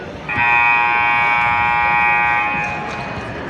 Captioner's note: buzzer sounds